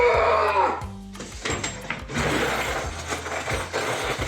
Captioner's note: gas mask breathing and frustrated lamentations; rattling metal and furious drawer opening; rattling silverware and drawer closing, furiously